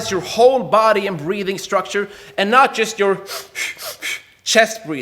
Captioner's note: air hisses